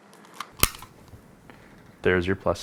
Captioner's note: snaps loudly